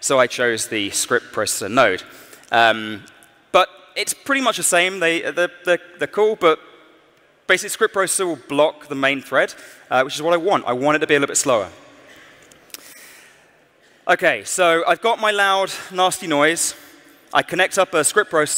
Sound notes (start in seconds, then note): none